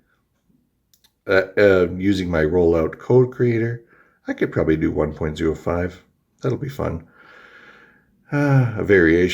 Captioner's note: stammers; sighs